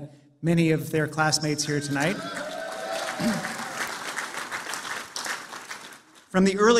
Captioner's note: applause